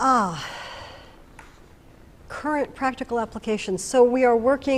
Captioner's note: sighs